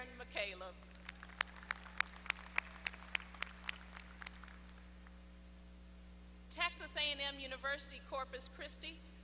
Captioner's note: applause